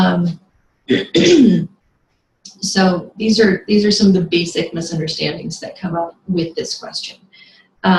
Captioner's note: clears throat